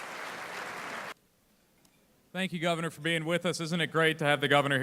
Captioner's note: applauding